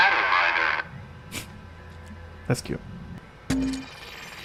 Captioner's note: snort